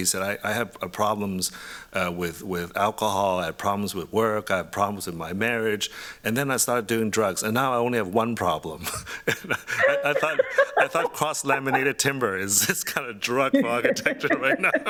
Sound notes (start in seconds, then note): 8.8 laughs; 13.3 laughter